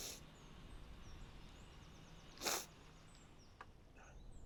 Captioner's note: birds chirping